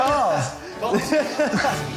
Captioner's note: laughs